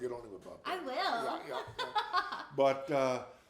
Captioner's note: laughs